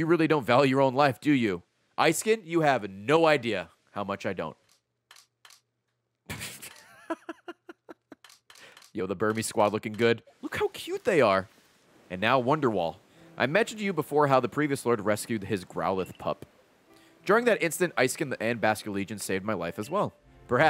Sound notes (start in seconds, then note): 6.3 laughs